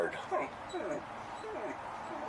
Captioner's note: dog whining